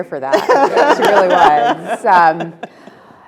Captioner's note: Elena laughing